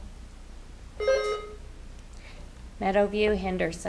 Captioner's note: buzzer ringing